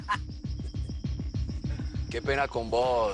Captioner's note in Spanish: Risas